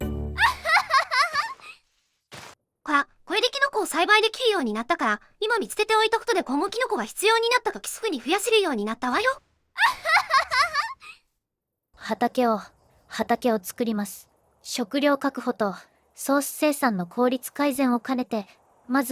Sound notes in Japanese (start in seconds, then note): 0.4 ツボに入った爆笑; 9.8 ツボに入った爆笑